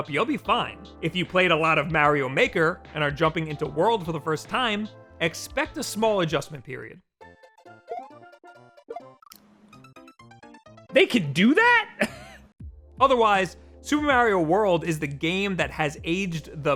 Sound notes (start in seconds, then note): 7.7 upbeat music; 12.4 laughs